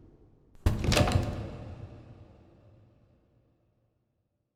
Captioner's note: suitcase lock clicks